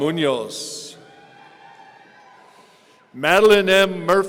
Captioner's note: audience cheering